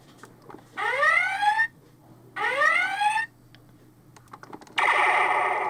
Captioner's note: sound effect